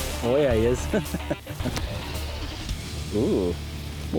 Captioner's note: laughs